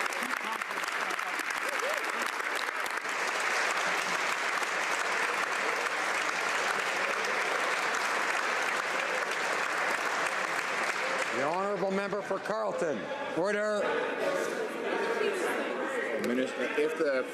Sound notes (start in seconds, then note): 2.9 some Applause